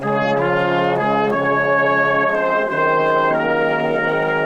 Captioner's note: people chattering